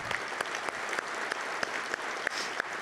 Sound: claps

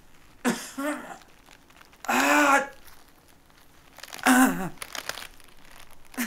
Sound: bones breaking; groans

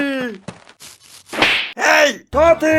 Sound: slap

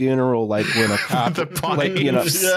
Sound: laughing

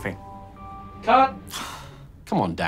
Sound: dissapointed sigh

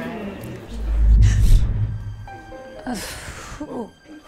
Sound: whooshing; Ashley gasps; Ashley groans

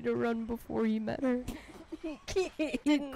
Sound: dying of laughter

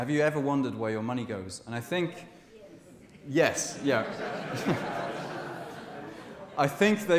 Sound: laughter from audience

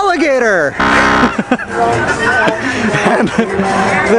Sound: machine buzzes

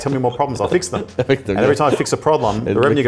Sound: laughing

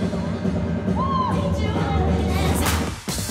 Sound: cheering; dance music

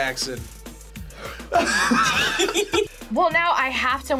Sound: group laughs

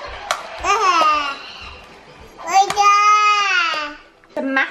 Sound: coos

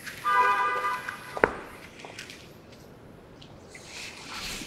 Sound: car horn honks

